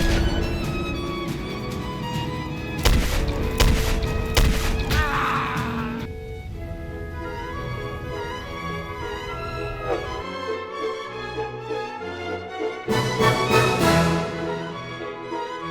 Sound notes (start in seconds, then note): 0.2 revolver fired; 2.8 revolver fired X3; 2.8 revolver fired X2; 4.4 revolver fired X4; 6.4 wind gusts over an empty world; 9.0 train horn?; 12.4 classical music intensifies